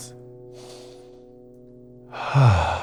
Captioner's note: inhales; exhales